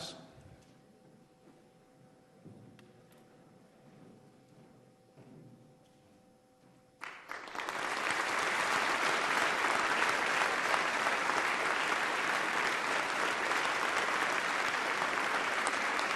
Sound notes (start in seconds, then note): 7.0 applause